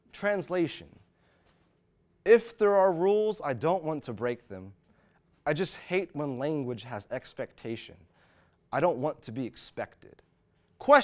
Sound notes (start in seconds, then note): none